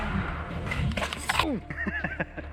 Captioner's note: chuckles